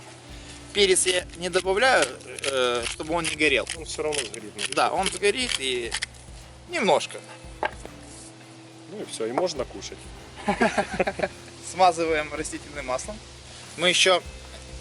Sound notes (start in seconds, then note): 10.3 laugh